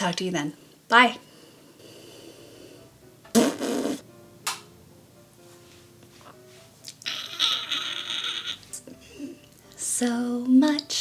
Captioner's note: raspberry; crack; tiniest imperceptible croaky scream; crack